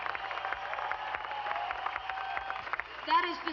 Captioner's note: applause